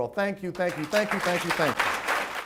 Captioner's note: audience claps